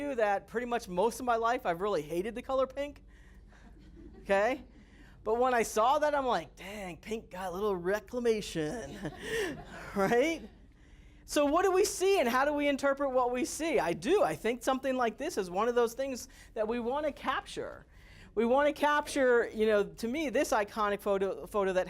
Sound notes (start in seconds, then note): 3.5 students laughing; 8.8 students and Instructor laughing